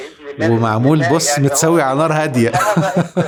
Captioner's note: laughs!